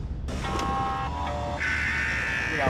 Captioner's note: radio static